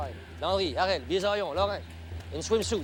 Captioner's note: speaks foreign language